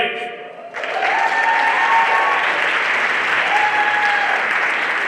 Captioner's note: everyone applauding